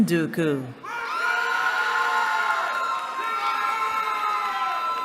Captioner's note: cheering